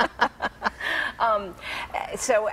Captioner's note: laughing